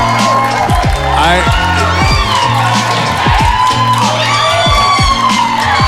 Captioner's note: audience cheering continues; audience cheering